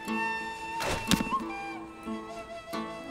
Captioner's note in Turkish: Ok fırlatma sesi